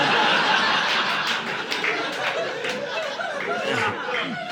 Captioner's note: audience laughing